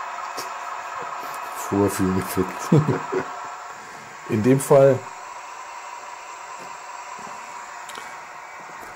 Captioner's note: laughs